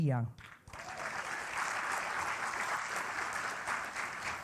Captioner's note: applause